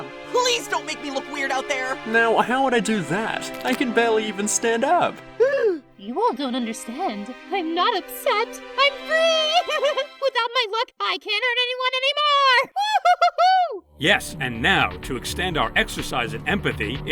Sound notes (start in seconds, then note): 5.4 paintbrush gasps; 9.2 laughs